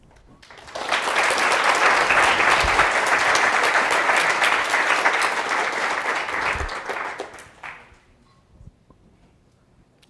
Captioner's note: applause